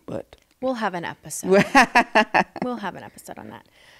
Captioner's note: laughing